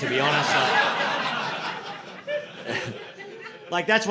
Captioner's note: audience laughing